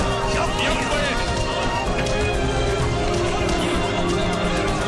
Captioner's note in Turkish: Kargaşa sesi